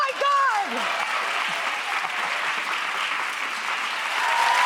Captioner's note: audience applauds